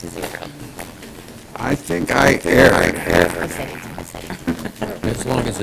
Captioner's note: laughter